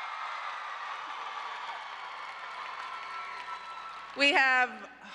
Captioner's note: applause